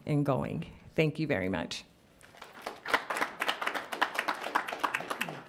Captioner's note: audience applauds